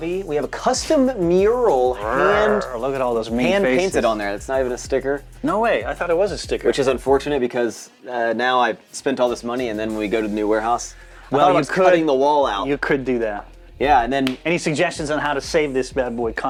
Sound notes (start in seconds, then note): 1.9 roars